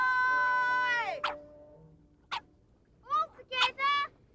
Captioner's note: barks